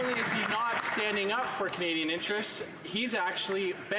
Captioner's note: some Applause